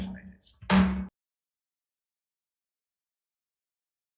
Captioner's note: gavel bangs